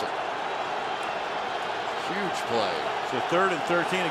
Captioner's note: cheering